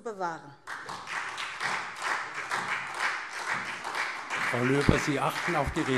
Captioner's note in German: Beifall SPD